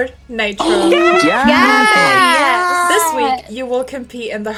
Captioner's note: cheering